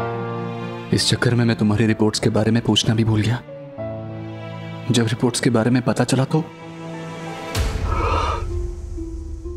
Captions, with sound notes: I forgot to ask you about your report because of the hoopla. When I finally came to know about the report... [exhaling]